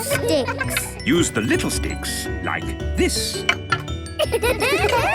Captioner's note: laughter